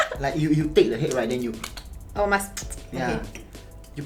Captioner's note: tchup tchup